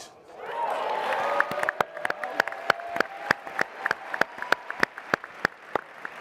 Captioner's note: applause and cheering